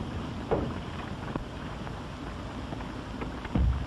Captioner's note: none